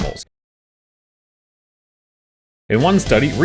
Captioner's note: silence